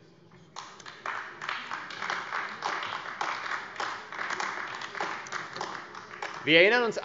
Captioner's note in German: Beifall AfD